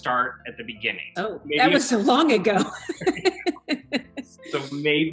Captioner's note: laughter